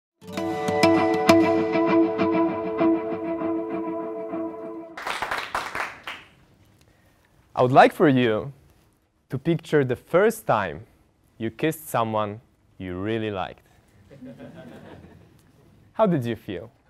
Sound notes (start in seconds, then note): 4.9 applause; 13.9 laugh